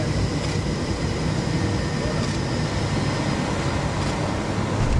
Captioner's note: camera clicking